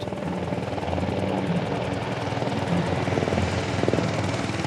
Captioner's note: blades whirring